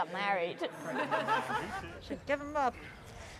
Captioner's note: guests laughing